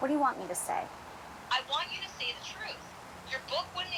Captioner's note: on phone